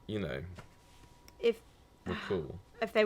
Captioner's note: sighing